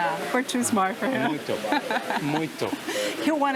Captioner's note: in Portuguese